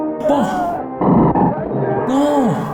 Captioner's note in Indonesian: Berteriak